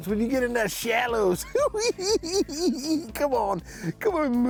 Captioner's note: cackling